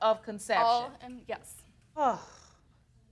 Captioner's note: sighs